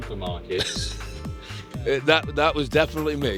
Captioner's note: laughs